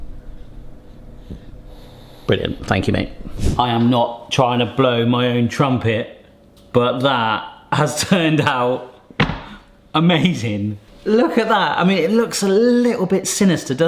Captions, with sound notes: (dog grunting) Brilliant, thank you mate. I am not trying to blow my own trumpet but that has turned out amazing. Look at that, I mean, it looks a little bit sinister,